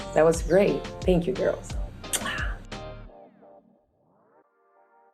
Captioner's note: kissing smack